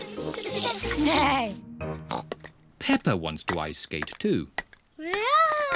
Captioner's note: snorts